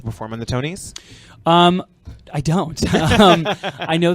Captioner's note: laughs